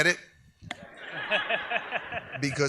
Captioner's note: audience laughs